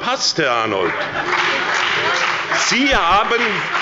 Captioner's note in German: Beifall bei der SPD